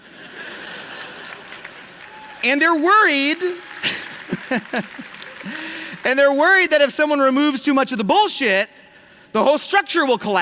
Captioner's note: applause